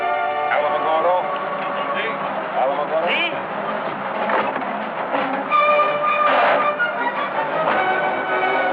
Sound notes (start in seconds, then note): 1.3 in Spanish; 6.2 dramatic music